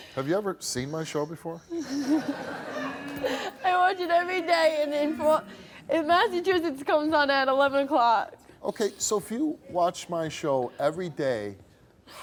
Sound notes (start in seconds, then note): 1.8 audience laughing